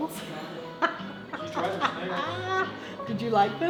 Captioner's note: laughing